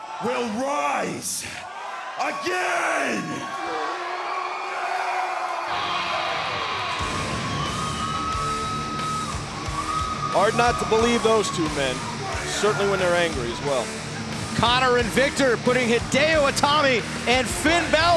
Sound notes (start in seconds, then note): 3.7 crowd cheering